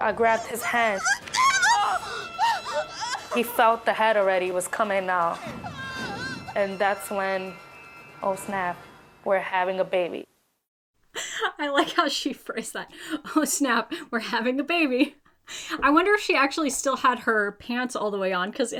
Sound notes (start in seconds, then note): 0.2 screams; 12.9 laughs